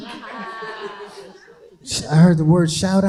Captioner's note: crowd laughing